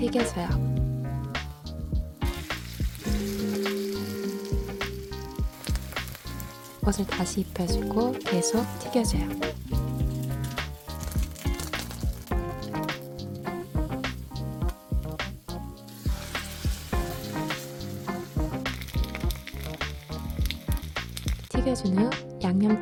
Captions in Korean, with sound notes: 튀겨줘요. 옷을 다시 입혀주고 계속 튀겨줘요. (지글지글) 튀겨준 후